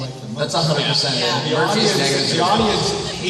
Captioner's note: cast members agreeing